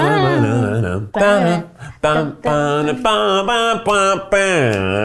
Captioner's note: both hum